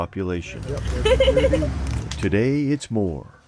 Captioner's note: girl laughing